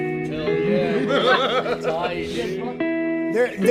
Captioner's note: sailors laughing